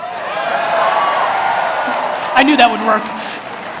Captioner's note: audience cheers